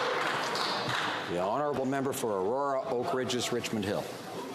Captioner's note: some Applause